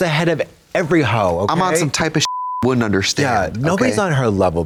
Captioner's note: beep